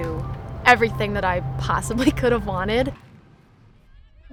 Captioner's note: chuckles